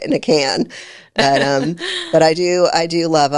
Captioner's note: laughing